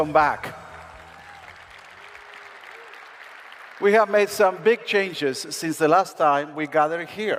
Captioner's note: applause